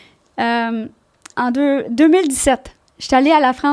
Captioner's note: in french